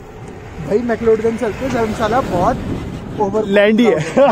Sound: muffled voices

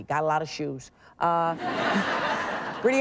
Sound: audience laughing

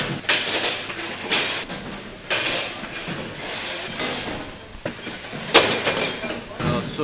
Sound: machinery noise

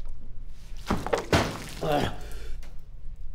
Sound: gasps

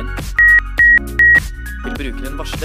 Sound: beep sound

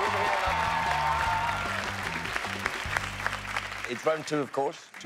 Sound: cheers and applause

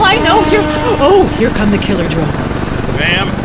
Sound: whirring

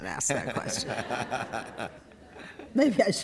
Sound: laughter

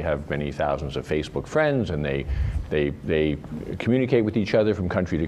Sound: none

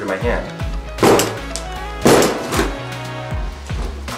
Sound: banging

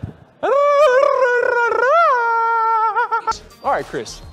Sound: mating call

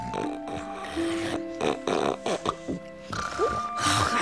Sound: gentle snoring & smacking of lips

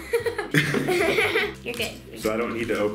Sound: laughs

